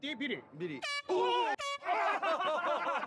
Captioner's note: speaking Japanese; horn blares